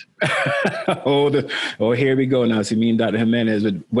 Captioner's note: laughing